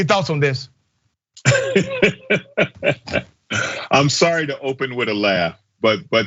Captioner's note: laugh